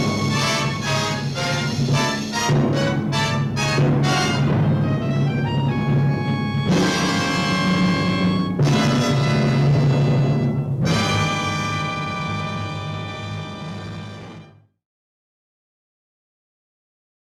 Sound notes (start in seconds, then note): 3.3 static